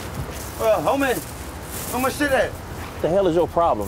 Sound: none

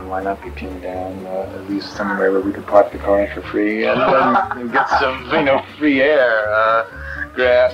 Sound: laughter

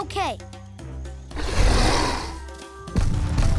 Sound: roaring

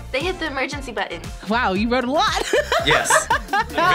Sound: laughs

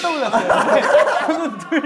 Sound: hahahahahahaha

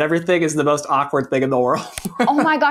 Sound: chuckles

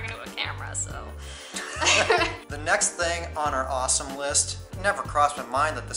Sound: laughter

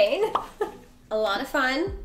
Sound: laughs; pop up sound

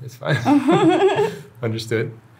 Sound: both laughing

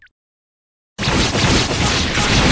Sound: epic Sword Impact

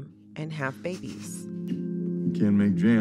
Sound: soundbite of tv show, "scandal"

